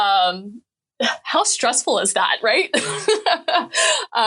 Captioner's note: laughing